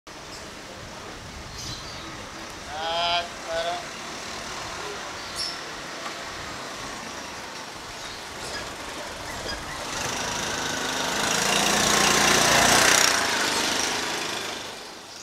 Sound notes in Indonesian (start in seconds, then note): 2.6 Suara Tukang Loak; 9.8 Suara Bajaj